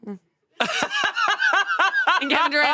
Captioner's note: laughs